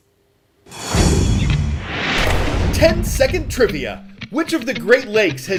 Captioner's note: voice-over